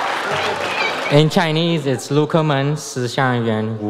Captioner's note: speaks in foreign language